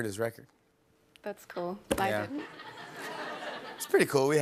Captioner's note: laughter